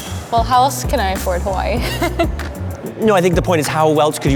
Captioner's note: laughs